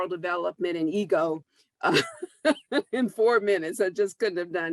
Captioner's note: laughs